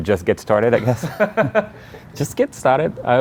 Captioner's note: laughing